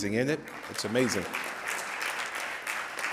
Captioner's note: audience applauds